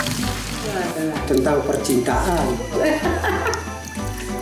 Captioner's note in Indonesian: Laughs